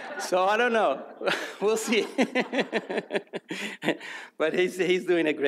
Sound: audience laughs; laughs

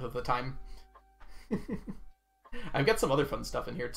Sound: chuckles

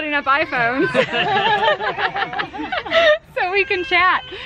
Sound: laughs

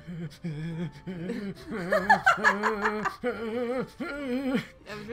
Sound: laughter

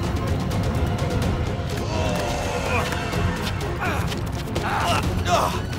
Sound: grunts

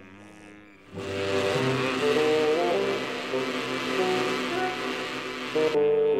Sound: buzzing

